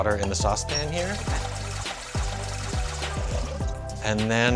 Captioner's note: water running